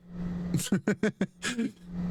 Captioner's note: laughter